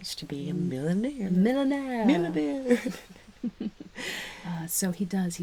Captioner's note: laughing